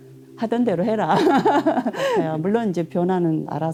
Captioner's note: laughs